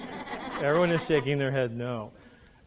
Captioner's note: laughing